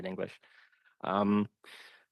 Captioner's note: speaking French